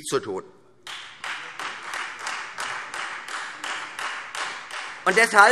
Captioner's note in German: Beifall Freie Demokraten